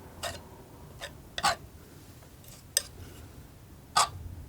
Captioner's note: tapping